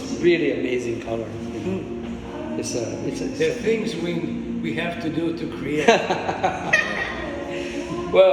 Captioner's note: everyone laughs